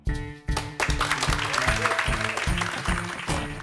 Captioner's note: applause